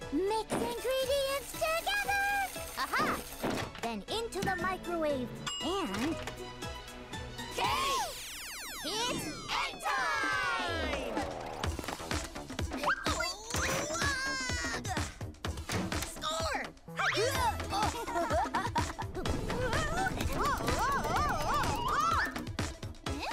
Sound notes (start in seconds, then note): 5.4 dinging; 17.2 laughing